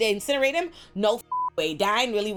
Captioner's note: beep